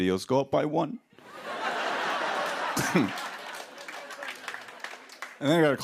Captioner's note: laughter and applause